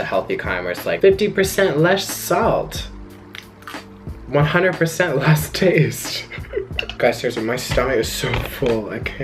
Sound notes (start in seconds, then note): 6.1 chuckles